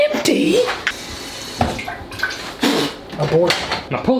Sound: washer pouring; loud blowing

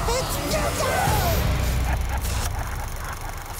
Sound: laughing

